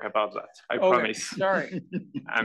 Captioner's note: laugh